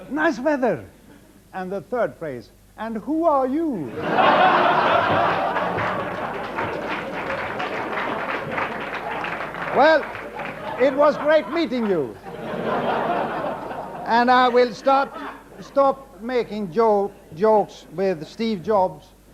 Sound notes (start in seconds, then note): 4.0 audience laughs; 12.4 audience laughs